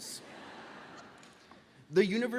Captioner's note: audience applauds